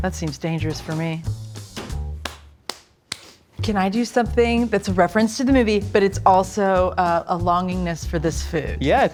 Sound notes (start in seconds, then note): 2.2 clapping